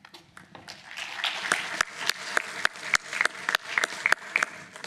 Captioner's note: applause